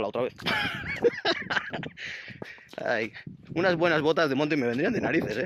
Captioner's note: laughs